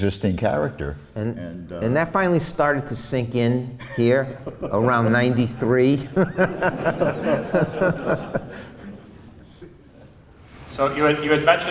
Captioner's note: laughs